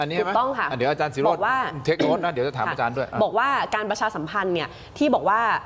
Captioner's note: clears throat